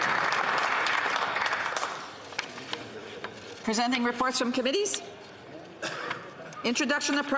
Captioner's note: applause